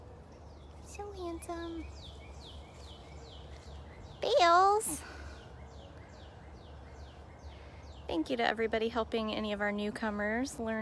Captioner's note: chirping